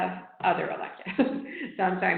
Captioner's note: laughing